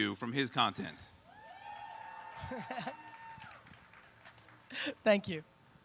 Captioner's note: audience cheering